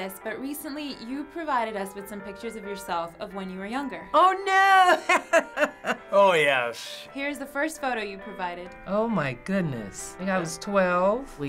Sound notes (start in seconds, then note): 4.8 laughing